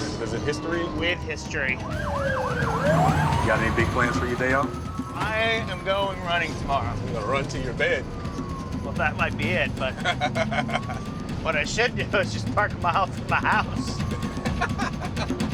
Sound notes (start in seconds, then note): 2.0 siren wailing; 9.7 laughs; 13.1 laughs